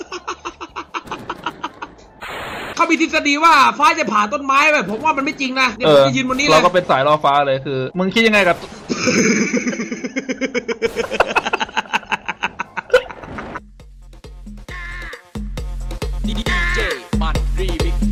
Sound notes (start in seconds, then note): 0.0 ePiC laUgH; 0.0 laugh epIC; 1.6 epIc LaUgH; 8.9 laugh